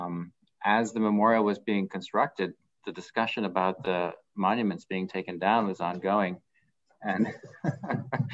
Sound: laughter

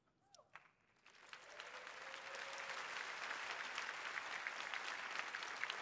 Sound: applause

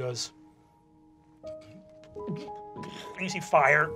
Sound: gags

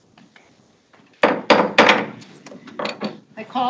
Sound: gavel banging

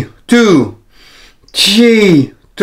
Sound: inhales

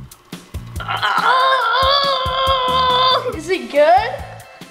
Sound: groaning

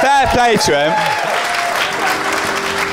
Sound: applause and cheering

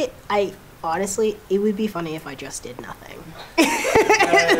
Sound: laughing

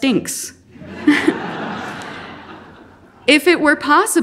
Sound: audience laughing

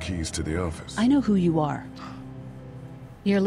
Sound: gasps

